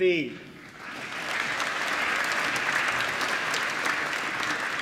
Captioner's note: applause